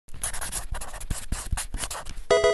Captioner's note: pencil writing; Pokemon game sound